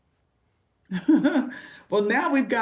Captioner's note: laughs